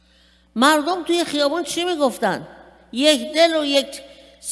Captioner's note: speaking persian